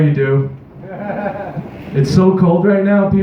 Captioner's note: nearby laughter